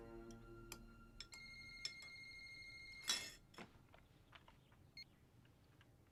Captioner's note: phone rings